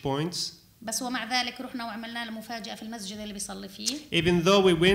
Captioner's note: speaking arabic